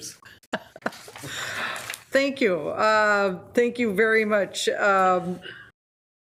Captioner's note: laughs